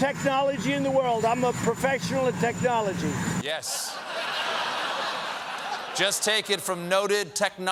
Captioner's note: laughter